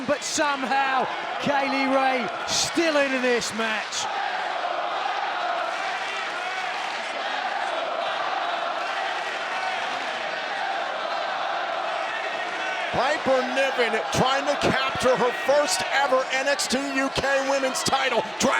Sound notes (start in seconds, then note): 6.1 audience applauds; 8.6 audience applauds